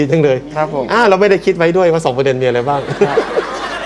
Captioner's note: laughing